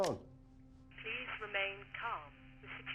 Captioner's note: intercom